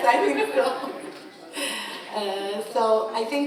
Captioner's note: laughing